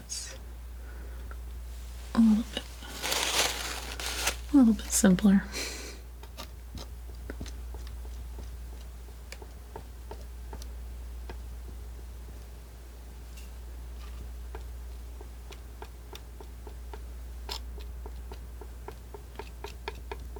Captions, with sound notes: it's a little bit (scratching) a little bit simpler (scratching)